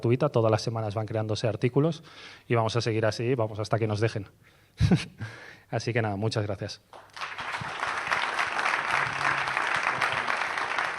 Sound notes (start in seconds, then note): 6.9 clapping